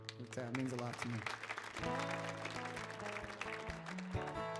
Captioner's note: audience applauds; light music